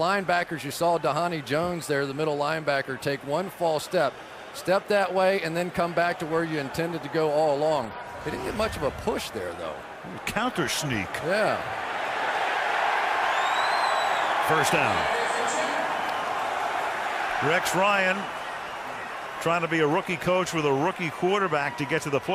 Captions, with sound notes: So those linebackers-- you saw Dhani Jones there, the middle linebacker, take one false step, step that WAY, And then come back to where you intended to go all along. He didn't get much of a push there, though. Counter sneak. Yeah. [cheering] First down. [stadium announcements] Rex Ryan trying to be a rookie coach with a rookie quarterback